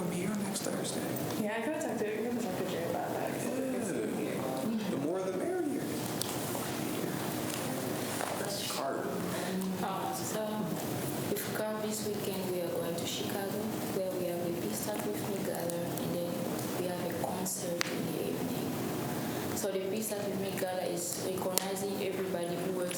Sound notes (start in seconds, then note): 1.6 faintly speaking